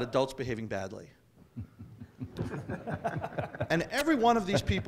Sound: chuckling

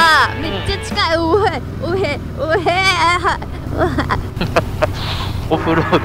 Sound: moaning

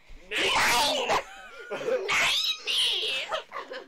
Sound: laughter

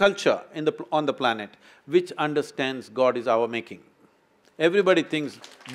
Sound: applause

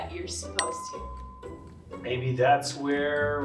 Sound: bell dings

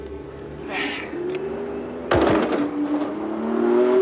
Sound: vehicle approaching

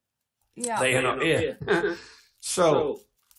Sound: laughs

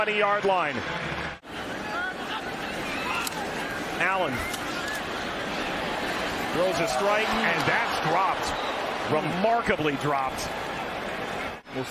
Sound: cheerg

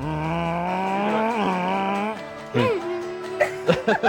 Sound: making engine sounds

